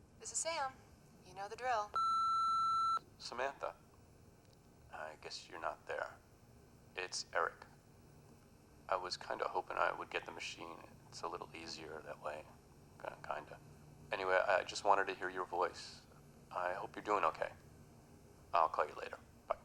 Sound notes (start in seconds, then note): 1.9 beep